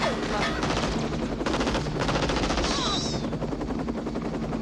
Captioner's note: gunfire